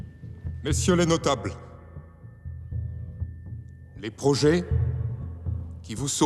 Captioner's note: somber music; Louis XVI speaking in French